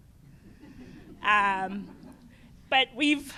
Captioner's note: laughter